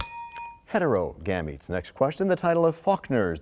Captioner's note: bell rings, time expires